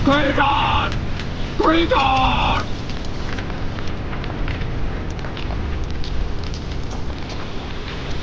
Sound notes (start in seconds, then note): 3.7 volcano rumbling